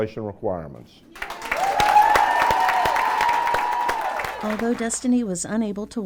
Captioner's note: cheering and clapping